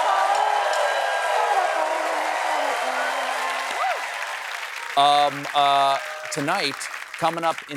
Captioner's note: cheers and applause